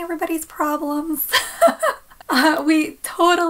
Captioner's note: laughs